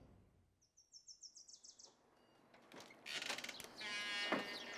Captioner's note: birds chirping